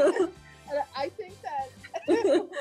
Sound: laughs

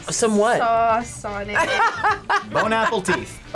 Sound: laughs

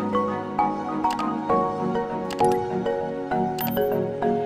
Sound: mouse clicking

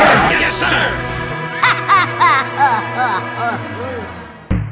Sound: retarted laugh

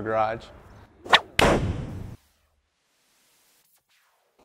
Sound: whoosh

